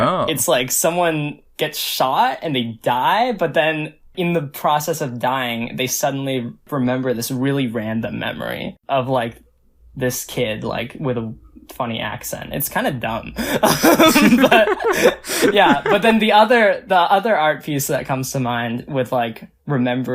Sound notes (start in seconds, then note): 13.4 both laugh